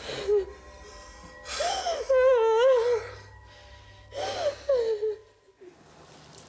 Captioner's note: John panting; Jodie crying